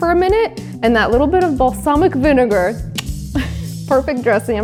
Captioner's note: mouth clicks